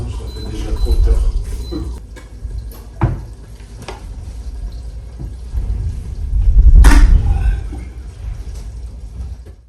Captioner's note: kitchen noise and Vibration